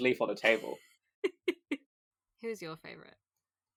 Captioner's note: laughs